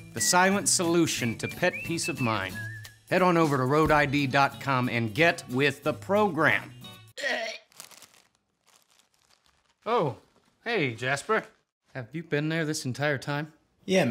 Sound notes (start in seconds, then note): 7.3 cat retching